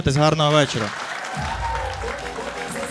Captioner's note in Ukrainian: оплески